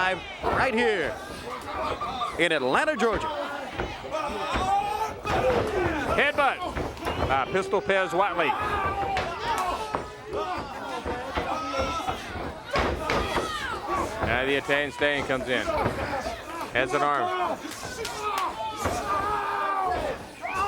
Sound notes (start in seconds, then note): 3.0 crowd cheering; 5.1 crowd chatter; 11.8 crowd cheering; 18.2 crowd cheering; 19.3 crowd chatter